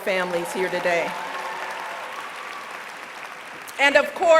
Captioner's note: applause